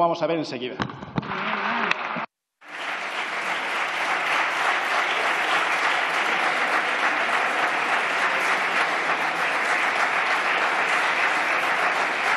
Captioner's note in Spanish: Aplausos